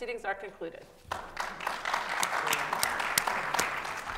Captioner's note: audience applauds